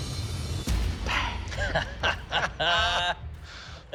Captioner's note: laughter